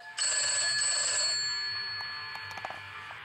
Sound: phone rings

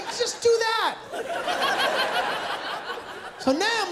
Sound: laughter

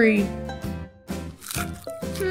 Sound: crunch!

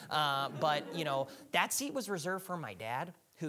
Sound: audience laughing

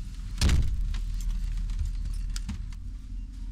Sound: door slam

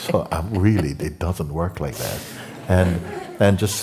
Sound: laughter

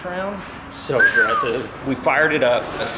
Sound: whistles

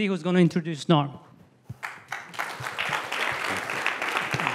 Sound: applause

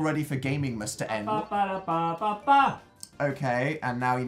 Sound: vocalizing

